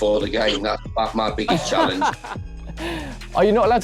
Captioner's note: laughs